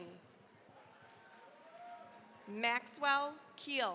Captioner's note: cheering, applause